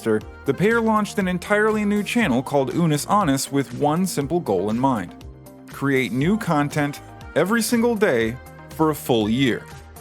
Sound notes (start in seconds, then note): none